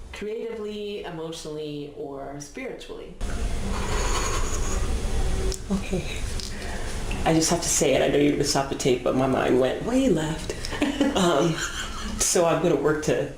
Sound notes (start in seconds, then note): 3.7 slow exhale; 10.6 laughs